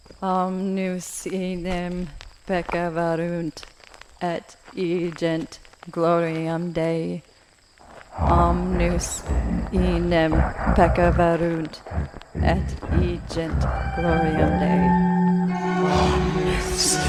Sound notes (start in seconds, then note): 0.1 foreign language; 7.2 eerie music; 8.7 voices chanting